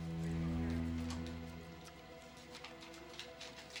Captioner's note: rattling